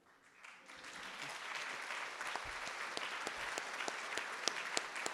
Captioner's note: audience applauding